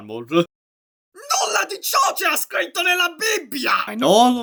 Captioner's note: in italian